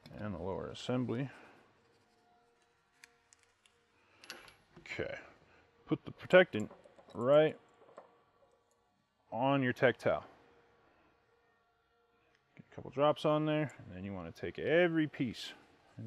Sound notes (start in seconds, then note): 3.2 gun clicks